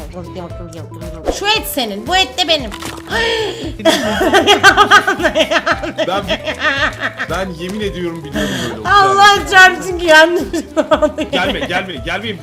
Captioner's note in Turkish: kahkaha